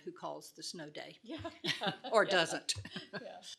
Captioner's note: laughs